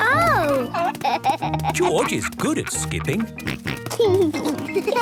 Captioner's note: snort